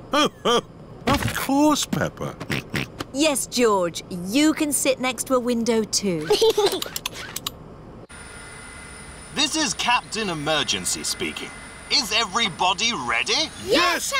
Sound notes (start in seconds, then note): 2.9 snorts; 6.2 giggles